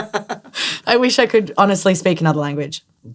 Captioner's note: laughter